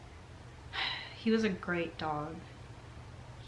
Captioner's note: sighs